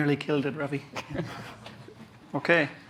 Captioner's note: laughter